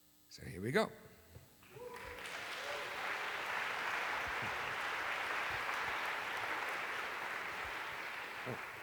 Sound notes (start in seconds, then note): 1.7 applause